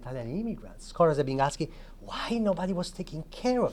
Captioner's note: speaking Italian